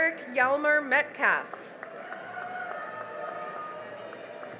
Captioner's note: cheering and applause